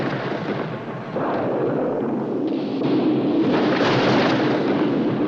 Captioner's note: thunder claps